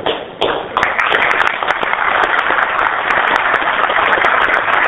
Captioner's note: applause